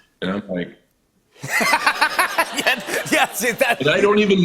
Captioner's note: laughs